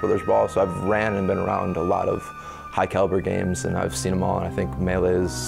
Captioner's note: none